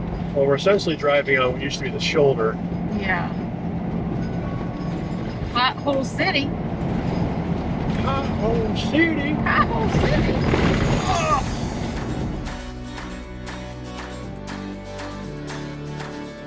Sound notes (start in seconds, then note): 11.9 grunts; 13.3 upbeat music